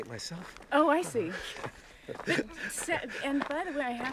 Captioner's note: laughs